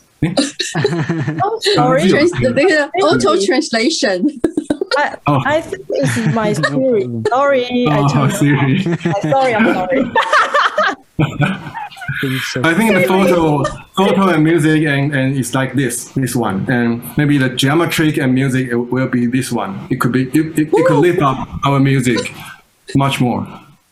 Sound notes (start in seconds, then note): 0.3 risas; 7.8 risas